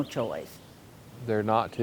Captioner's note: birds chirping